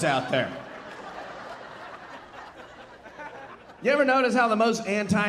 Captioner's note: audience laughing